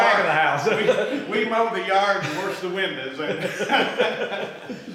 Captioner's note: laughs; laughs